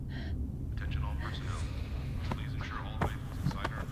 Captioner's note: man On PA